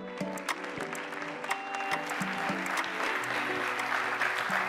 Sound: audience applauds; gentle music

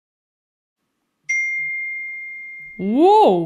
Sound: ding!

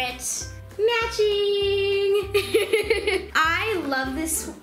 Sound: laughs

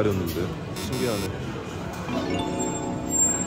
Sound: beep beep

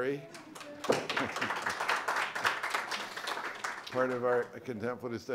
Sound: applause

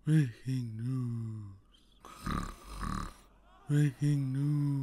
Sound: snore

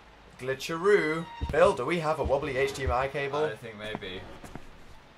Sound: sarcastically

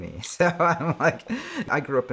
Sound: laughing

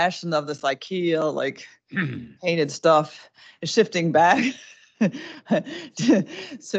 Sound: laughs

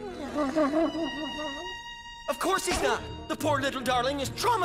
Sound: whimpering

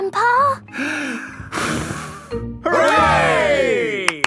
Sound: breathes deeply, blows; claps

